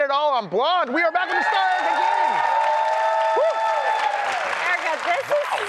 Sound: applause

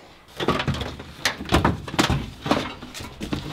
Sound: rattling; clattering

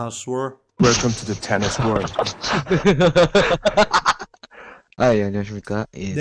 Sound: laughter

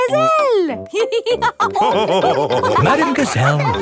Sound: all laughing

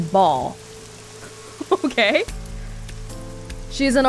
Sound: chuckles

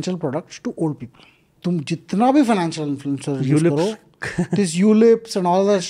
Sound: speaks in Hindi

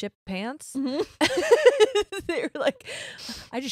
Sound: laughs

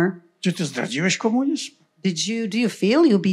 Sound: foreign language

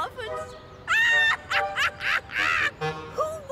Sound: cackling

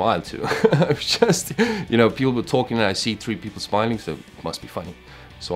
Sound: laugh

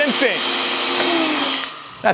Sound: blender stopping

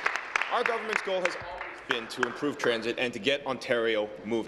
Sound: applause

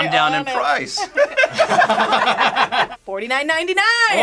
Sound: group laughs

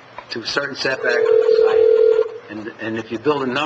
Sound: phone ringing

